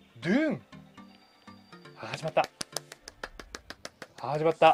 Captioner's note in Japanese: 拍手